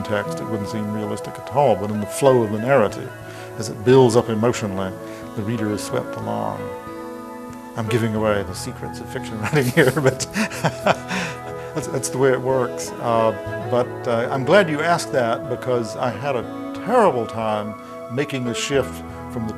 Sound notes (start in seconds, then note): 12.7 laughing